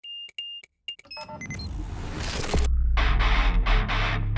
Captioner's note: electronic beeping; rock music